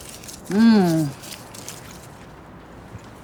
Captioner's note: woman hums